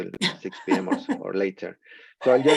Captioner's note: laughs